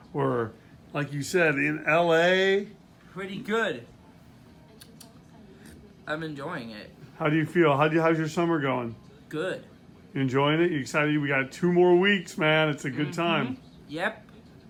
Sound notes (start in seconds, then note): 4.5 chasquea la lengua